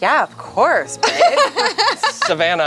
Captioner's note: laughs